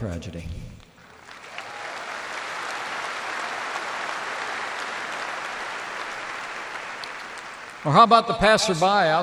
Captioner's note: applause